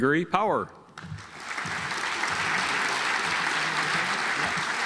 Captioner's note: audience applauds